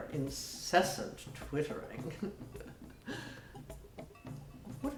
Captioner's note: chuckles